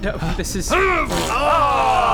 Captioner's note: hrrgh pfft